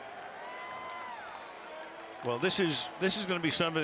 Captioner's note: crowd cheering